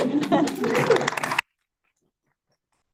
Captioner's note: applause